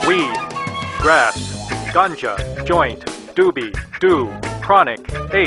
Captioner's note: voiceover